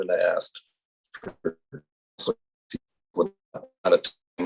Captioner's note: audio cuts out